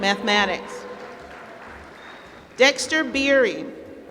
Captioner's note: applause